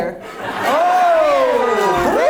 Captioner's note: audience laughs